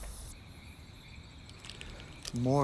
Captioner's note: crickets chirp